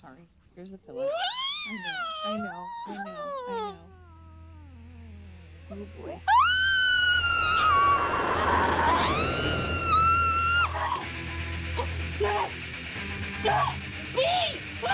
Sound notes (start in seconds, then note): 2.9 squealing -sad; 6.4 screaming oh damn; 10.0 she's still screaming, rock riff plays